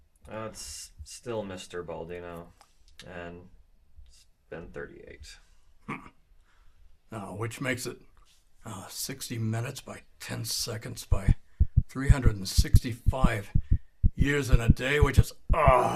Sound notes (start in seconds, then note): 11.0 heart beats